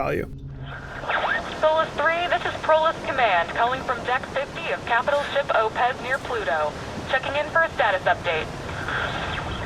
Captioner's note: radio voice